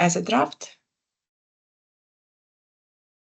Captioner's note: silence